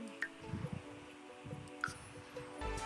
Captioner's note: sounds of a little glade